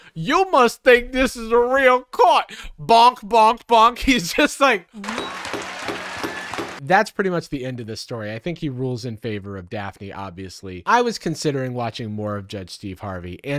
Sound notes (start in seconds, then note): 5.3 lint roller thudding